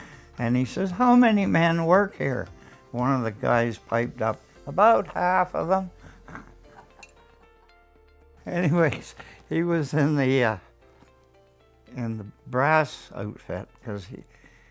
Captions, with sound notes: And he said how many men work here? One of the guys piped up about half of them. (laughter) Anyways, he was in the ah, in the brass outfit cause